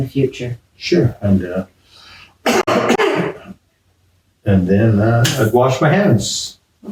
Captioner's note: coughs into elbow